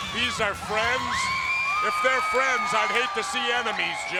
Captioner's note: crowd cheering